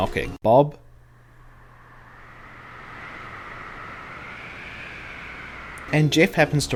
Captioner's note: wind Blows